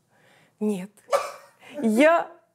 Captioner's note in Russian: кашляет смехом